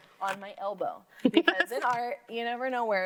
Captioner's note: laughs